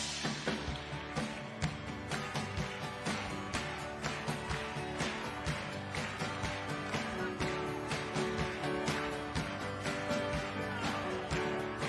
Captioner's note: cheering